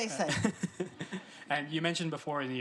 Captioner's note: interviewer chuckles